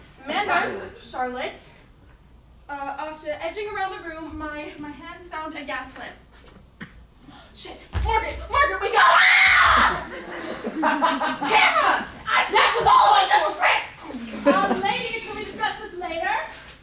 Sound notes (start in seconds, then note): 8.9 scream